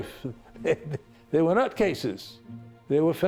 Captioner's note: laughs